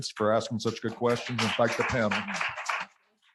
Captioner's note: applause